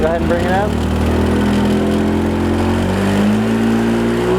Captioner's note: engine revs